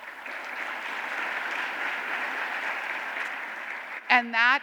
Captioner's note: applause